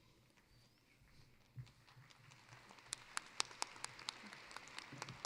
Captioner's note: applause